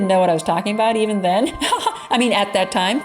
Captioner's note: laughs